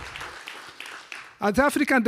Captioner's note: audience applause